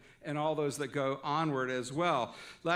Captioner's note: none